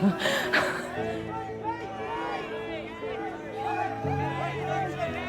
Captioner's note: crowd shouts